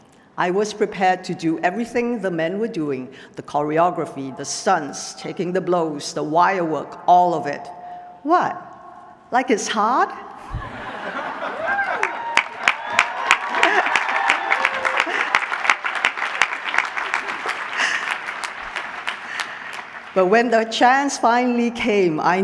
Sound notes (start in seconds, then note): 11.5 applause